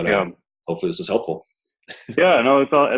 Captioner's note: laughs